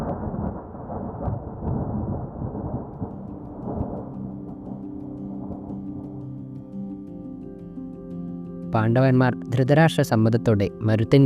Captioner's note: Thunder rumbling